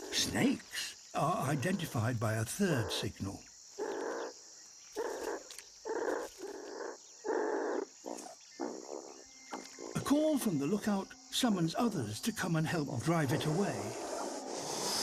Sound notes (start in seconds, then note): 6.8 grunts